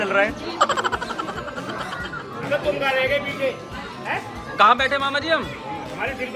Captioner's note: laughter